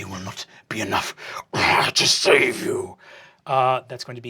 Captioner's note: growling